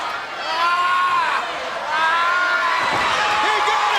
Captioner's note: Ric yelling